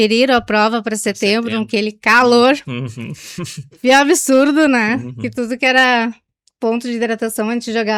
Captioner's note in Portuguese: risadas